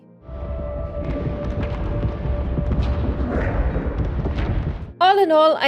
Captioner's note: sounds of fireworks